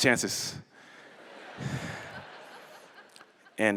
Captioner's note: laughter